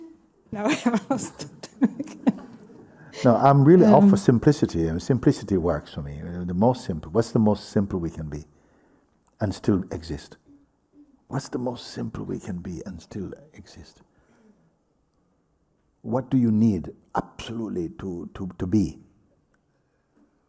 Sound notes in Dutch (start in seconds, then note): 0.7 lacht